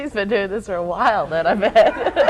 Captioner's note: laughter